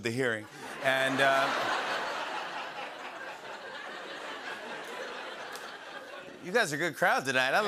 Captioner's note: laughter